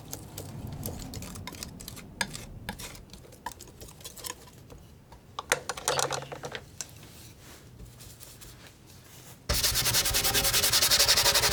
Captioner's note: scratching